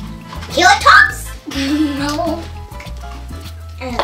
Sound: giggling

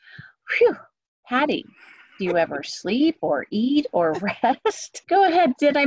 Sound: laughter

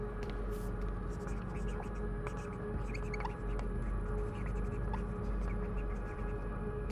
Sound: marker squeaking

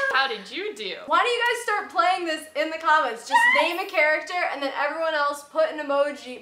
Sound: none

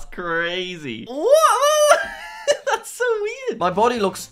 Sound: exclaims

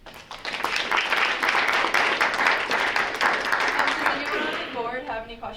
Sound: group applauding

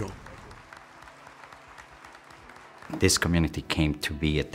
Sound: applause

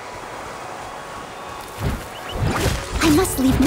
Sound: none

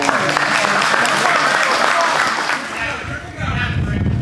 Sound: spectators applauding

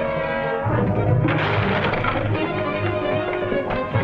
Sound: barrel cracks

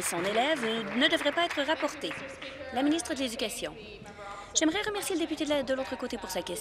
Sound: applause

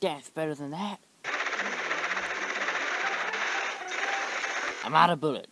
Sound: gunshots

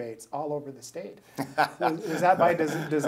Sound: laughing

